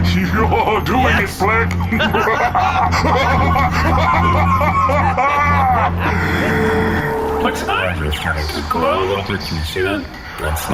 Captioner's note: laughing